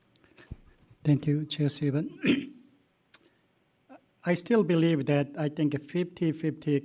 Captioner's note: clears throat